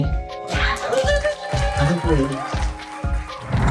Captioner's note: applause